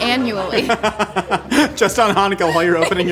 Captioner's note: laughing